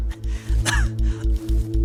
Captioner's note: laughs; coughs